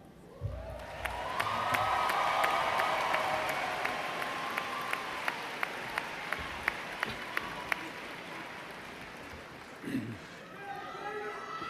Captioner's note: applause